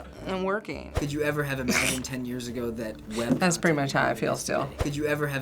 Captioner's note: snickers